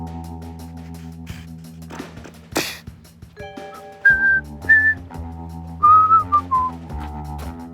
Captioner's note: Tiba-tiba beatbox dan bersiul